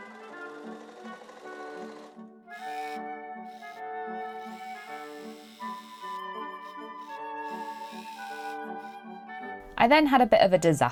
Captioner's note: machine whirring sped up